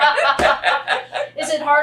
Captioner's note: laughter